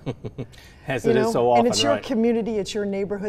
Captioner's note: laughing